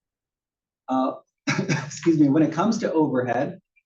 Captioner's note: cough